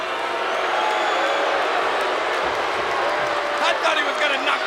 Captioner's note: audience jeers